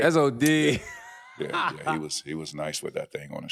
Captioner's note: laughing